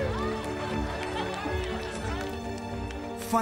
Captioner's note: applause continues; joyful laughter